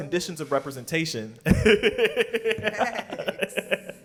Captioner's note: laughs